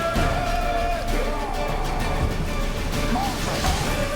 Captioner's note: battle cry